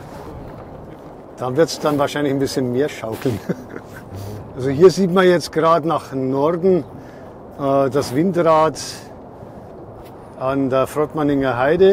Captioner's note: laugh